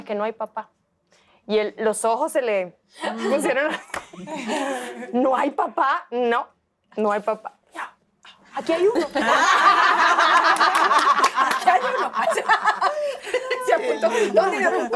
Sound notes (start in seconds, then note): 8.6 laugh